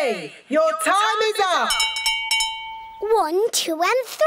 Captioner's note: rings bell